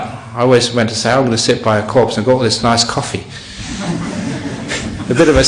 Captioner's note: laughter